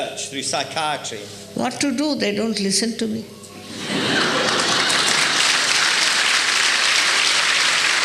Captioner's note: applause